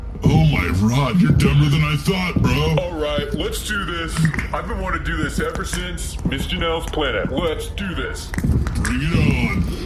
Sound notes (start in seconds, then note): 4.1 cracks knuckles